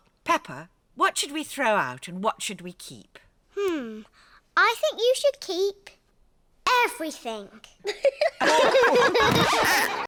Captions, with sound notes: Peppa, what should we throw out, and what should we keep? Hmm. I think you should keep... Everything. (ALL LAUGH)